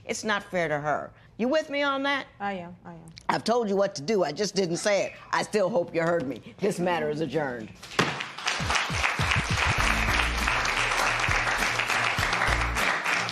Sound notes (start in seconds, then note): 8.1 applause